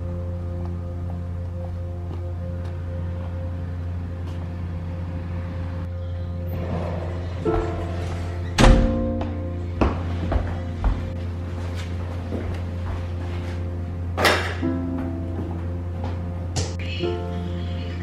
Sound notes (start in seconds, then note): 7.3 door closes; 14.2 backpack slams on counter